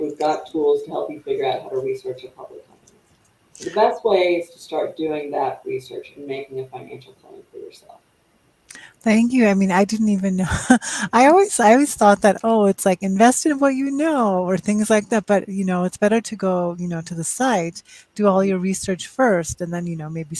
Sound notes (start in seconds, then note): 10.5 chuckles